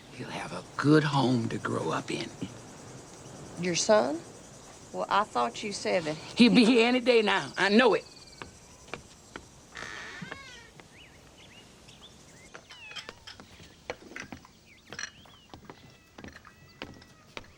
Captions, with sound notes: He'll have a good home to grow up in. - Your son? Well, I thought you said that... - He'll be here any day now I know it. (door creaks) (cats mewing)